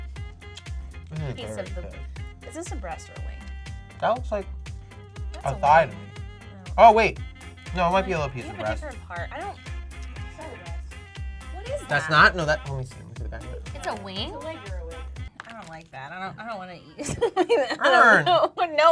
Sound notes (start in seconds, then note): 16.9 laughs